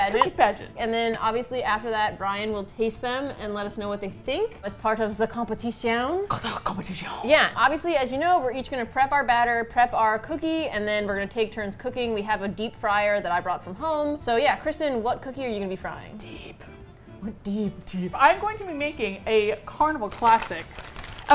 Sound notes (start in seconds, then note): 4.9 mock French accent; 6.2 dramatically; 16.1 whispered